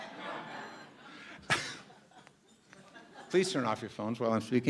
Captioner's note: laughter